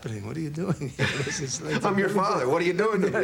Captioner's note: laughter